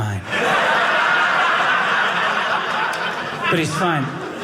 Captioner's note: audience laughing